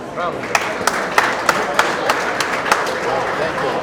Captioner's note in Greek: το κοινό χειροκροτεί